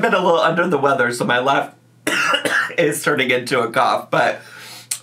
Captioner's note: coughs